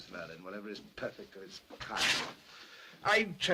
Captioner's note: cloth tears